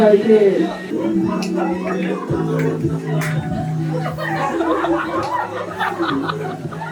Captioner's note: the set erupts into laughter due to the awkward movement